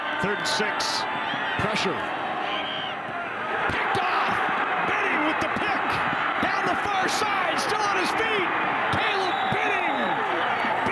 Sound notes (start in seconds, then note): 3.7 fans cheer; 9.0 referee blows whistle